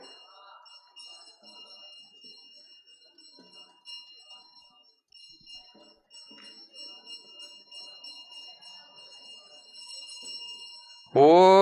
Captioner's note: silence